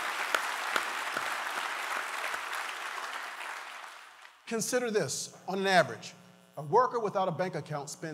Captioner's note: applause